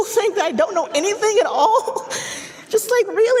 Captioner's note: laughing